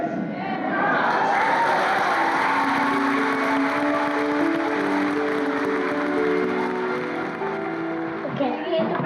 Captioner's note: congregation cheers and claps